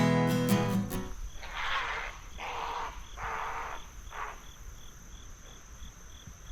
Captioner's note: great blue heron honking